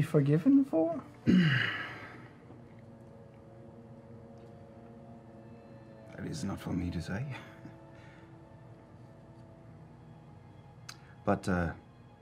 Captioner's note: clears throat